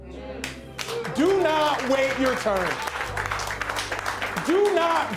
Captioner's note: crowd applauding